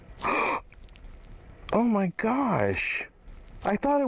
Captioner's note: gasps